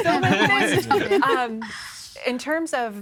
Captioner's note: laughing